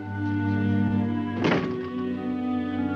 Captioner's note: door thudding; gentle solemn music